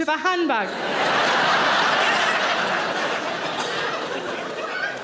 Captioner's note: audience laughing